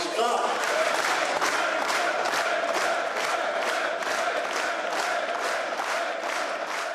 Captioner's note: audience clapping in rhythm, chanting